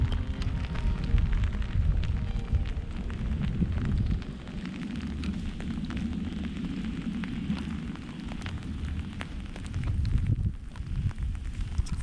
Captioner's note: rain